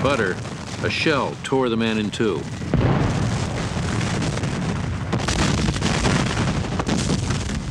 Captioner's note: explosions